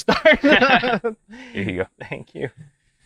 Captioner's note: laughs